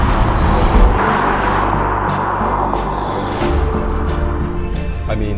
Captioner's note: road noise in distance